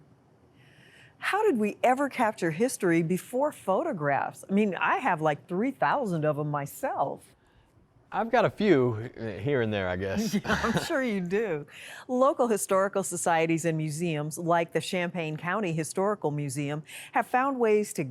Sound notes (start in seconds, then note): 10.2 laughter